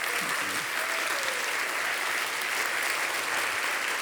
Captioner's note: audience applauding